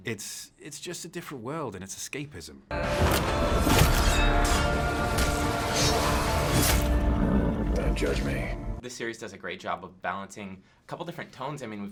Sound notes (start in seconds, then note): 2.7 epic music; 2.8 battle sounds; 6.9 horse grumbling